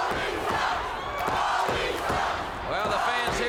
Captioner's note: crowd cheering